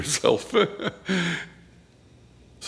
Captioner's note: chuckles